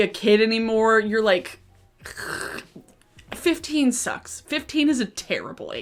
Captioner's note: groans